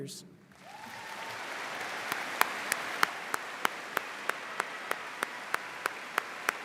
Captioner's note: audience and leaders applauding